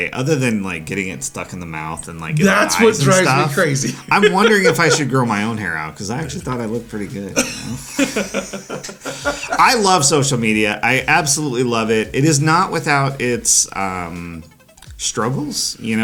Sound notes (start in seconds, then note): 2.4 laughs; 7.3 both laughing